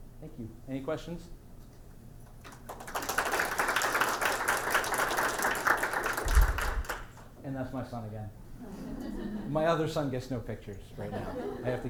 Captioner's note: clapping, chatter, and questions